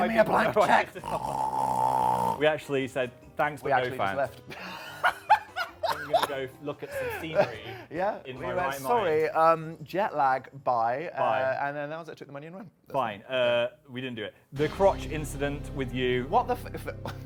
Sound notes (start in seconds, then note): 1.0 imitates snorting; 4.5 laughs